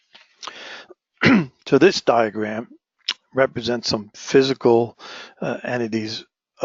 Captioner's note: cough